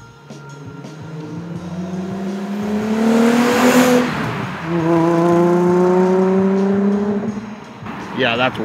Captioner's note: VQ engine sound